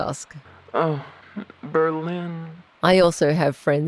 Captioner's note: wistfully